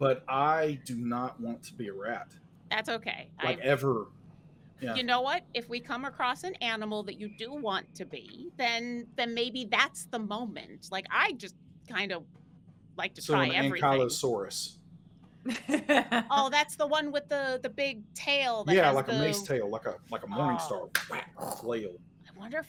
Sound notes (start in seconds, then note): 15.4 laughs